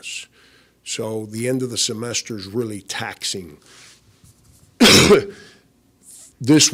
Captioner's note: coughs